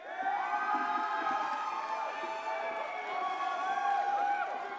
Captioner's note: audience cheers and applauds